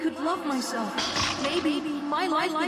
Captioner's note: crack